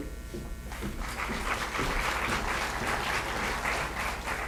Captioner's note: applause